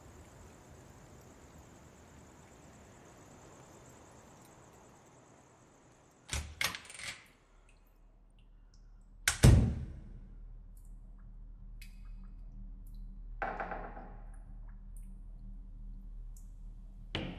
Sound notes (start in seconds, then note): 9.4 door bangs; 13.4 stall door creaks